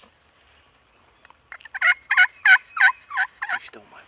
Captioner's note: turkey calls